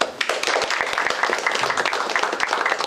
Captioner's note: applause